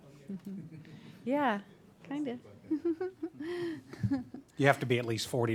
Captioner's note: laughing